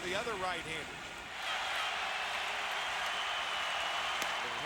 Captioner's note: applause